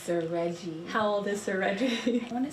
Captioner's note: laughs